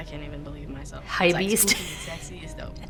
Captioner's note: laughs